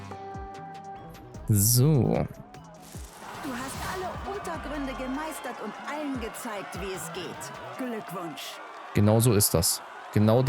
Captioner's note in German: jubel